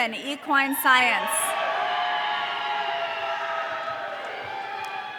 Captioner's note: audience cheering